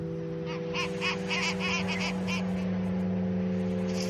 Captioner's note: skuas squawk